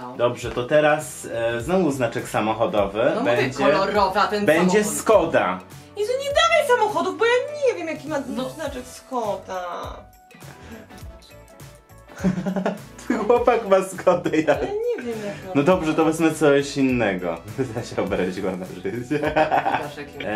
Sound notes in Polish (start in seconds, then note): 15.0 śmiech; 19.0 śmiech